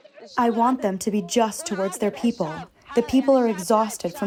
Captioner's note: through translator